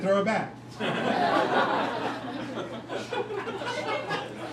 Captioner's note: crowd laughing